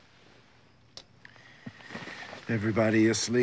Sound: lamp clicks

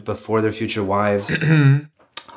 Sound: clears throat

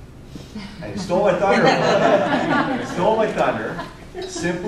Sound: audience laughter

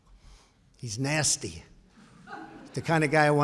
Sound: laughter

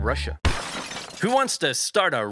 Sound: shattering

